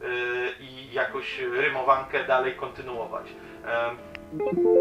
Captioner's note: in polish